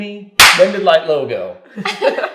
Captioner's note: claps